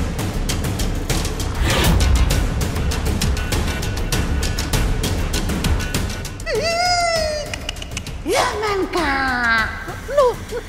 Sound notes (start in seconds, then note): 6.4 yells